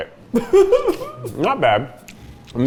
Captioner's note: laughs